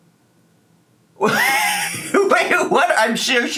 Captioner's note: laughing